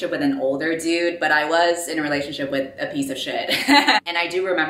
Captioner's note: laughs